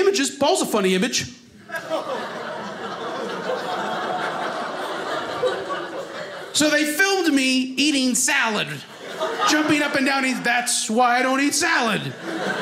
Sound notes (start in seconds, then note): 1.6 audience laughing